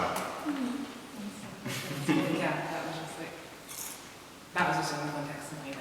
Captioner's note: sounds of agreement